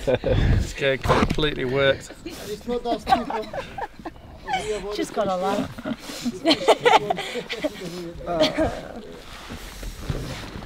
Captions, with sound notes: Just getting completely worked. Yasmin [Laughing] Just gotta laugh.